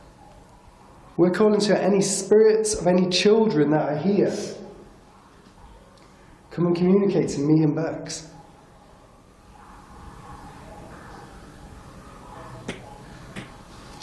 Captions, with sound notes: We're calling to any spirits of any children that are here, come and communicate with me and Becks. (dripping sound)